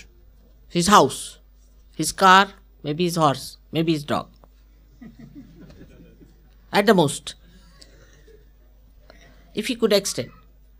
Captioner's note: laughter